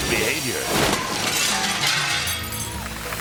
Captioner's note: glass clattering; graphic thunks; audience cheering